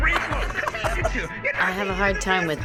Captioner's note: laughs